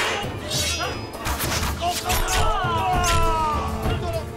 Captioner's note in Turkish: Ok atma sesleri; İnilti sesleri